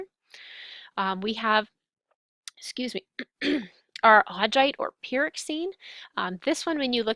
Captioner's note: clears throat